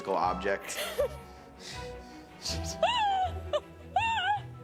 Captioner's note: laughing